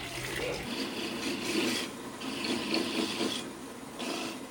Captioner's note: sound of grating the coconut